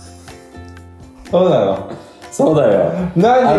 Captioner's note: laughs